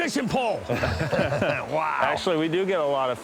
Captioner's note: laughter